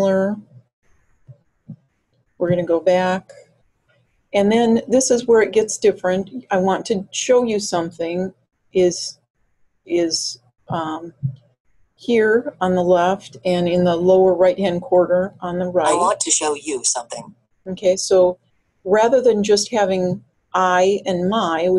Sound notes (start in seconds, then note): 15.9 voiceover